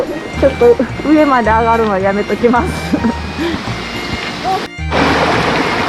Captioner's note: laughs